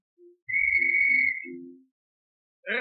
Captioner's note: whistle blows; piano stops